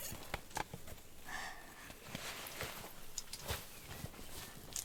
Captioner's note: Lily sighing